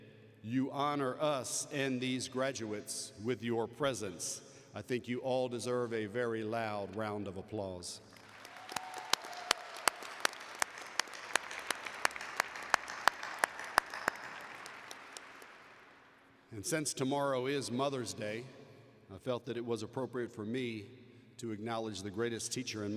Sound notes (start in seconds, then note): 11.9 applause